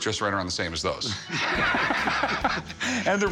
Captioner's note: laughter